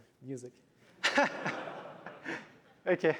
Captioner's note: laughter